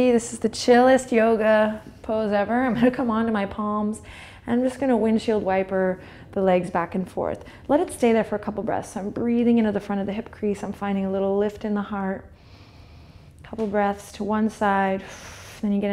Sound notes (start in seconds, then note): 12.4 inhales; 15.1 exhales